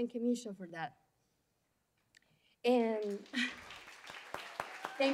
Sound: applause

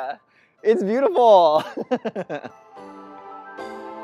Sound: laughs; upbeat music

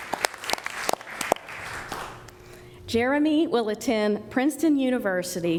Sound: applause

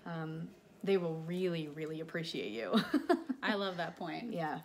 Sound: laughs

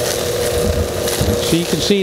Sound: vacuum

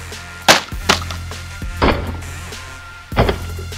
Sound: upbeat music; hummer smacks

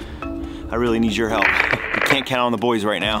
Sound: video crackles

